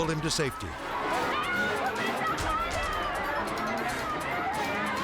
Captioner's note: bystanders chattering